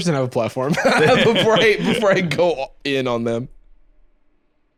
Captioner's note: laughs